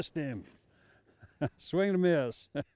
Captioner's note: chuckling